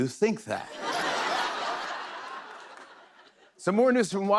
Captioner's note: laughter